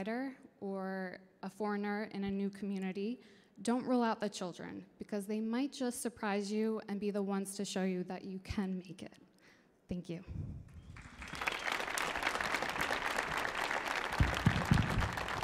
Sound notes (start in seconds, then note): 10.8 audience applauding